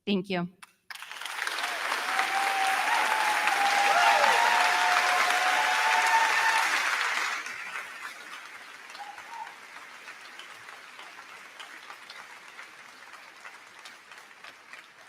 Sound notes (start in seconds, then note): 1.3 crowd cheering; 1.3 crowd clapping